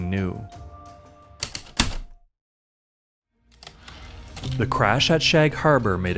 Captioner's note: heavy typewriter keystrokes, return slide